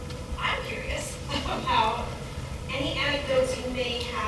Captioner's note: laugh